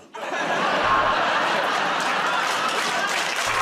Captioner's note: buzzer buzzes; laughter